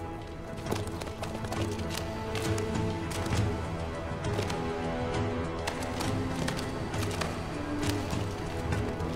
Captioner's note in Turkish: Nal sesleri